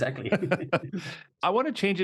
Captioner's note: laughing